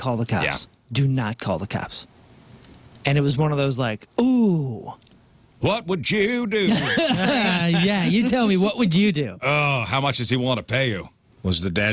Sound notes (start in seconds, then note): 6.6 laughing